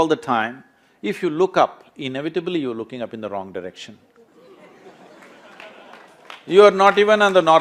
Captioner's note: laughter/Applause